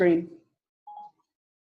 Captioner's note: phone beeping